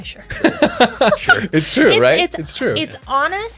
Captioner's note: laughs